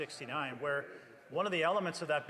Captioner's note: speaking French